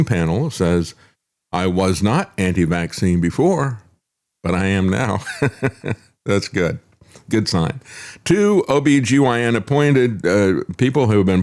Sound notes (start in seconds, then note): 5.2 laughs